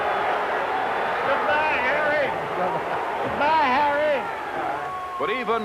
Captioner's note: jeers and screaming